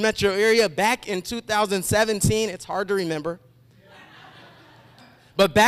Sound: laughter

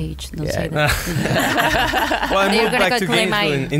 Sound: laughs

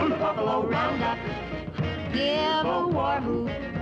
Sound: war hoots

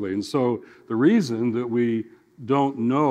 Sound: none

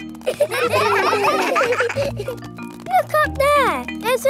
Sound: children laughing

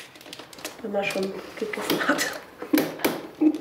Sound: she laughs

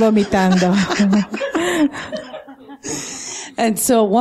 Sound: laughter

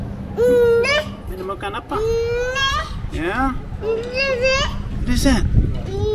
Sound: baby sounds

